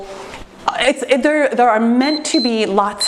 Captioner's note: timer beeps